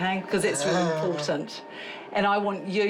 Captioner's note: chuckles